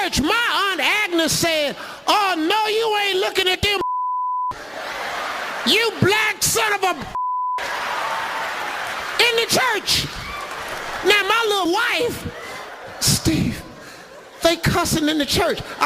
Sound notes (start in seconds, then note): 3.8 beeping; 7.1 beeping; 7.6 audience laughs